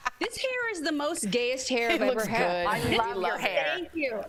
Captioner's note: laughter